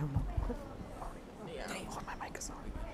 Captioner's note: whispering